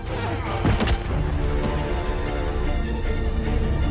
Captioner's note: body thuds